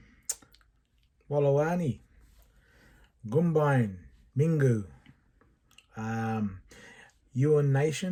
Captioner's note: speaking Indigenous Language